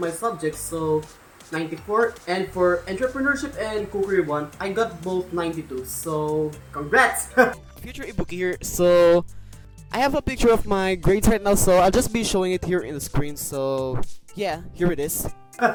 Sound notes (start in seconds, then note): 7.3 laughs